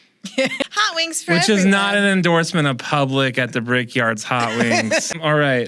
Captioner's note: laughter